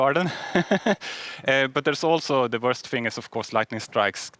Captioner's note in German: lachen